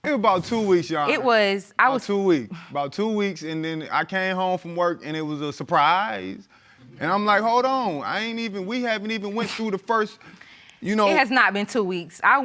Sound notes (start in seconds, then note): none